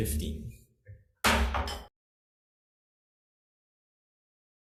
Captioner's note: gavel bangs